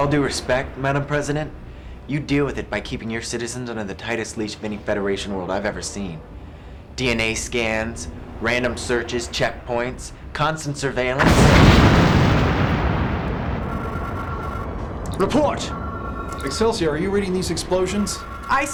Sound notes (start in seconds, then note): 12.1 explosion